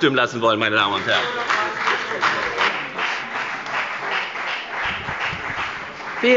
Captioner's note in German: Beifall bei der FDP